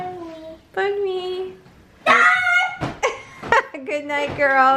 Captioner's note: speaks foreign language